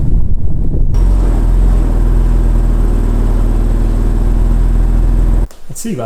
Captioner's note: exhaust noise, engine start; exhaust noise, idling